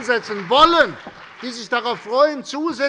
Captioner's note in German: Beifall bei der CDU und dem BÜNDNIS 90/DIE GRÜNEN